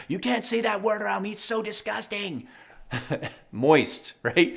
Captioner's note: laughs